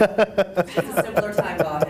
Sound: laughter

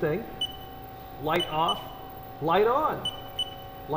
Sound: beeping

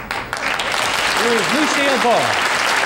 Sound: audience applauds

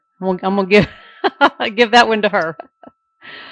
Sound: laughing

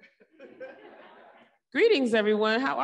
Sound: audience laughing

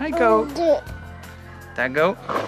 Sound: baby babble

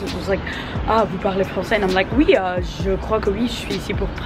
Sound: speaks in French

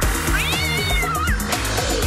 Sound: cat yowling

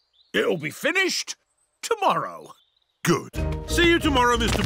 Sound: none

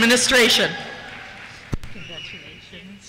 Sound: cheers

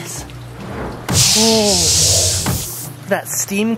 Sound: tub steams

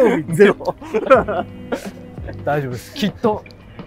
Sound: laughing

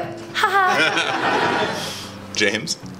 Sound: chuckles; audience laughs

